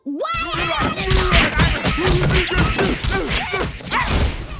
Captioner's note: grunting